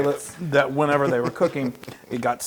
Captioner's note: laugh